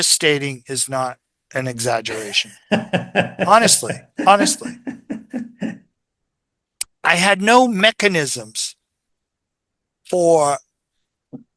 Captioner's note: INTERVIEWER: laughs